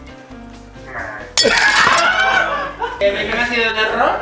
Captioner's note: laughs